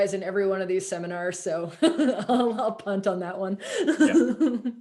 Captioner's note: laughs